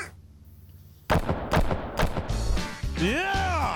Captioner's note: buffalo sound; gunshots